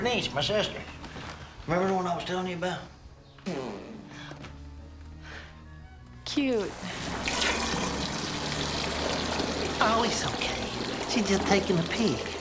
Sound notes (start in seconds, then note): 6.5 water rushing